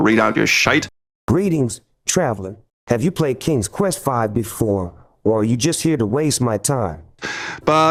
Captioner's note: ai snoop reads aloud robotically